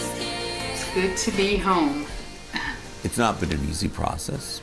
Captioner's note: exhales